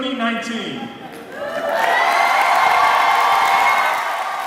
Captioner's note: audience cheering